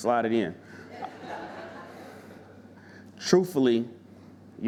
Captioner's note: audience laughing